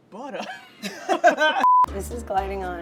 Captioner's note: laughs